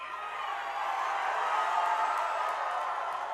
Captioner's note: cheering and applause